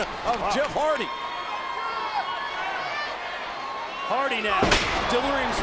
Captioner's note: applause